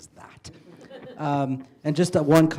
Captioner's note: laughter